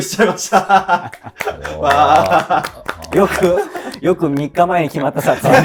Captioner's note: laughing